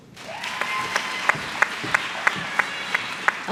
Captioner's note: applause